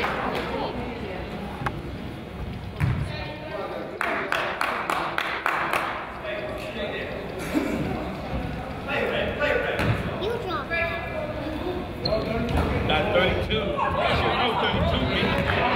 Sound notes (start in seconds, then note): 0.3 player claps; 12.3 crowd chatters